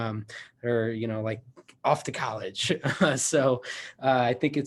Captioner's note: laughs